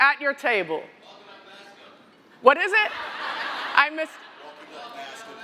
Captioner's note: laughter